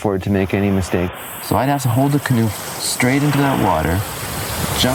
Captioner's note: pounding surf sound